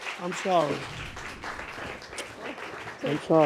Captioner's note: audience applauding